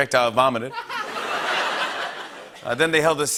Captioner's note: laughter